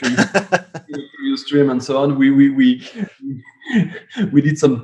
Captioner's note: laughs